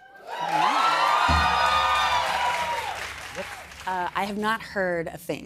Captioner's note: cheers and applause